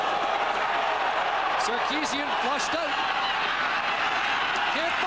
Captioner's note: cheers/Applause